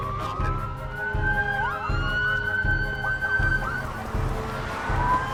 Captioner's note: siren wailing